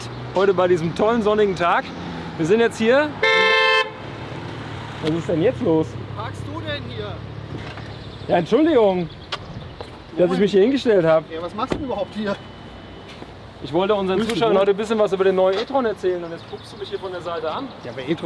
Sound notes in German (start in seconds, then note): 3.1 Hupen